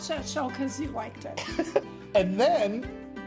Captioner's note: chuckles